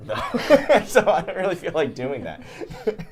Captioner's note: laughs